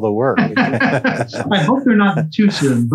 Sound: laughs

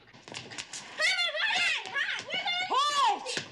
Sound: both shouting

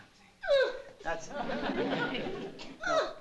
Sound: grunts

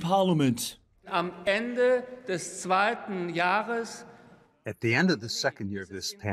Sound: through translator

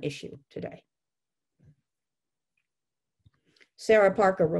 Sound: silence

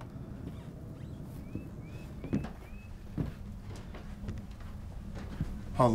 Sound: footsteps thumping; floorboards creaking

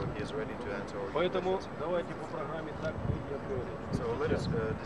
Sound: non-english speech

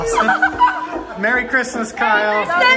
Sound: laughs

